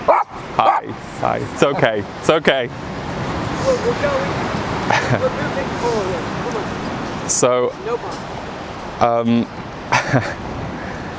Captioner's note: laughs